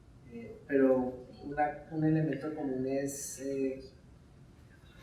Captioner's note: speaking in Spanish